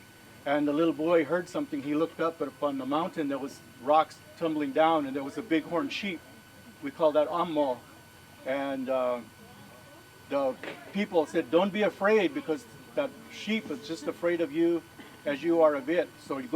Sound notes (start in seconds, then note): 7.1 speaking in foreign language